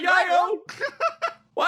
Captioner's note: laugh